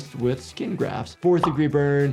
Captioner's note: graphics popping